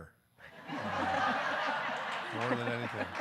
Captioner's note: audience laughing